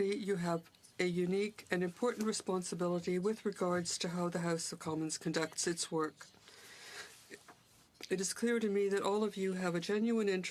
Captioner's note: speaking in french